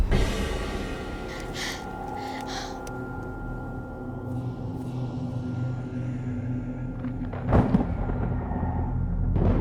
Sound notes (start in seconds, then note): 1.1 panting; 7.3 thunder rumbles